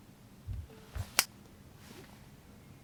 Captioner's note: snap!